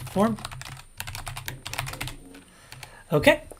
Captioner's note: keyboard keys clank